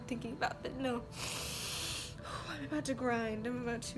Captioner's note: deeply inhales